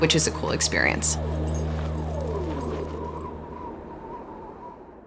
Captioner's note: wind howling